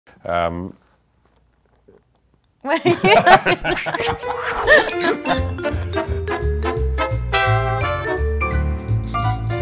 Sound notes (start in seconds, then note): 2.8 laughing; 3.8 jazz lounge music